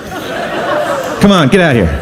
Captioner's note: audience laughs